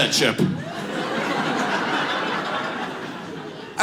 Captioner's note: audience laughs